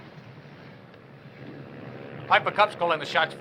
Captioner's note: plane whirring